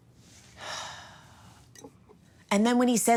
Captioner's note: sighing heavily